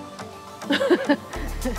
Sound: chuckled

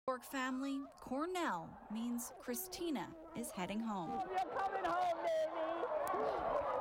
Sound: applause

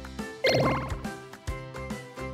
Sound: pinball bouncing sound

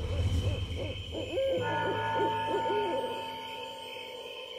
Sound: owl hooting

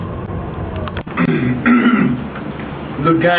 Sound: coughing

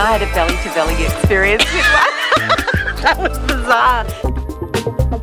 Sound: laughing

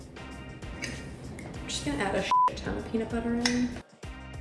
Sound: beep

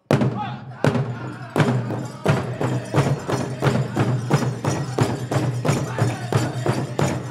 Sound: drum beating intensely; regalia ornaments jingling

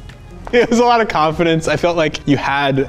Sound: laughs

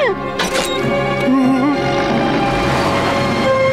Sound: whimpering

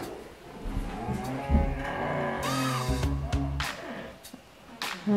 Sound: moaning

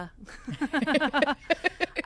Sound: both laugh

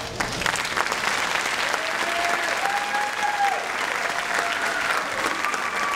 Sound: audience cheering and clapping

